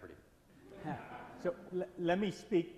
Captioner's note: laughs